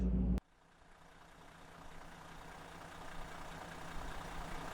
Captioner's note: engine running